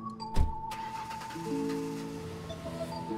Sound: engine starts

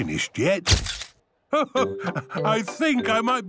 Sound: camera clicks

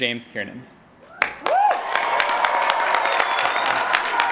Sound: applause

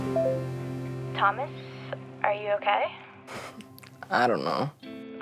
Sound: phone bleeping; voice On Phone

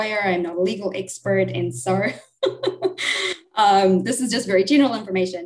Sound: laughs

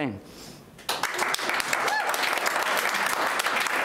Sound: clapping

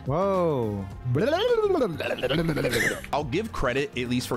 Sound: gargling

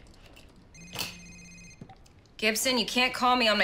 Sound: cellphone ringing, vibrating; beep

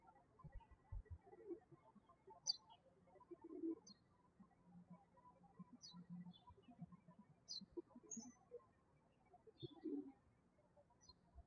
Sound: birds chirping

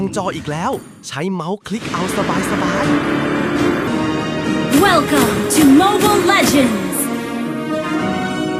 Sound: game Sound Effects

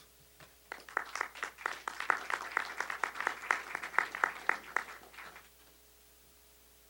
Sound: applause

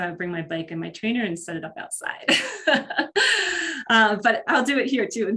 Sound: laughs

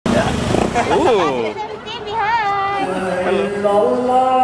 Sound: foreign language

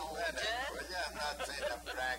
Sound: laughing

